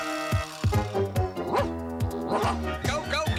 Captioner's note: barking